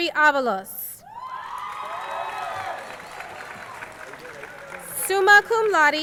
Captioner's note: crowd cheering